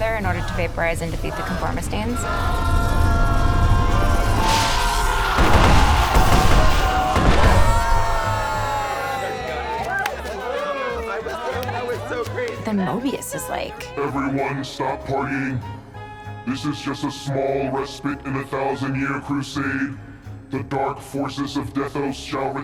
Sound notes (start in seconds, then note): 3.8 conformistines clamor; 3.8 lightning zaps; 6.9 members cheering